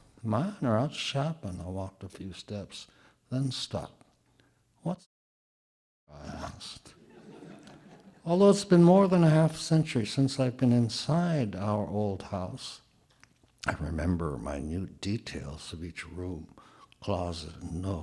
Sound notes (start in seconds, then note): 5.9 audio drop